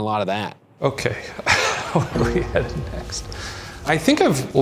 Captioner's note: laughing